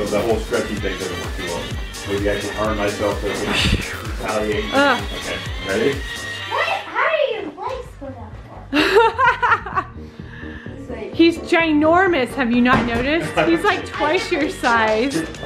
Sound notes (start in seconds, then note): 6.7 murmurs; 8.7 laughs